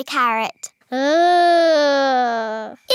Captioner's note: groaning